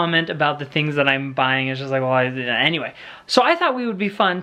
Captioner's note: stammers